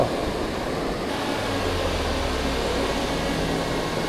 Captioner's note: drone takeoff again